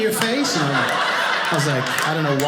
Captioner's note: audience laughing